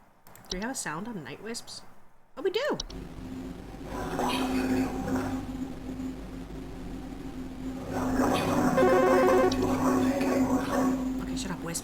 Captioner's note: spooky ghost warbling